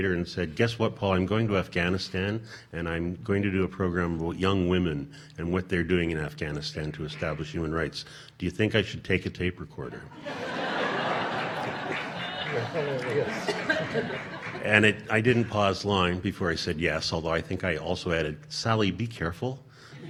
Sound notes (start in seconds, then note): 10.1 audience laughing